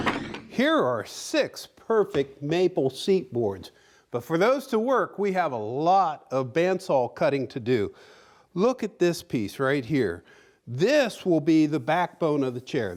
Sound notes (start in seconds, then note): none